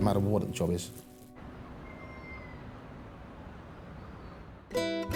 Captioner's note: birds chirping; uplifting instrumental music